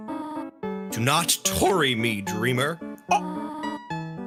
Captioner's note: stammers